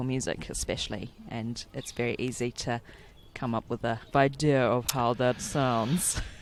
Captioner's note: posh accent